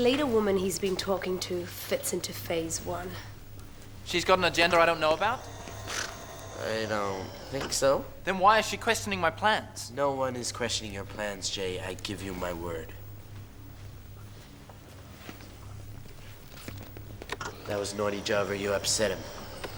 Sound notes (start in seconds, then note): 4.6 snorts